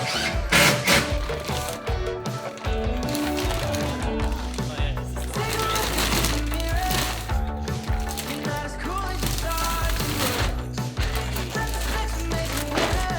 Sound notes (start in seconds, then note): 3.4 plastic rustling